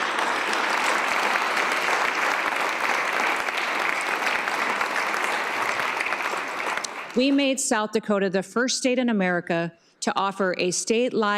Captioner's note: applause